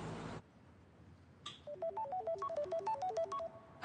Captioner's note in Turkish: telefon çalar